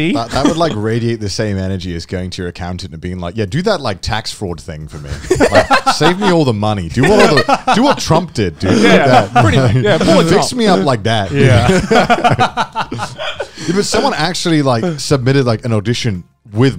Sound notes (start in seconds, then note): 5.0 both chuckling; 8.6 laughing; 12.2 all laughing